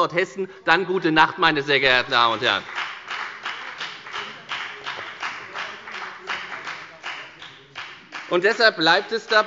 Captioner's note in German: Beifall bei der FDP – Zurufe von dem BÜNDNIS 90/DIE GRÜNEN